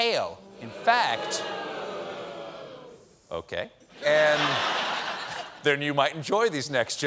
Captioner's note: audience booing